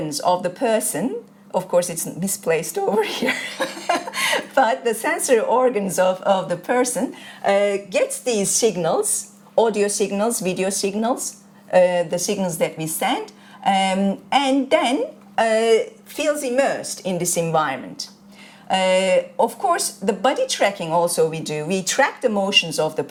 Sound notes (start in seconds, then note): 3.1 chuckles